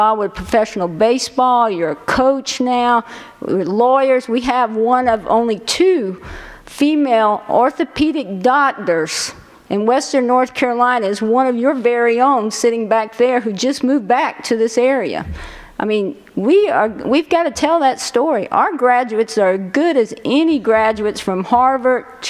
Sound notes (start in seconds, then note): none